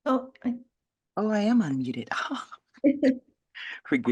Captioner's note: laughs